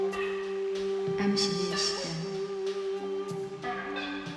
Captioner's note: speaking another language